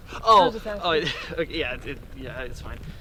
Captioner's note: stuttering